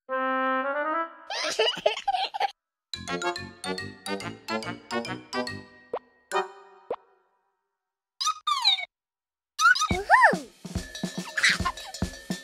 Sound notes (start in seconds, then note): 1.3 giggles; 8.0 sound effects